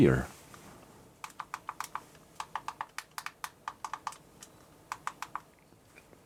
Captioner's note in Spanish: Sonidos de clic amortiguados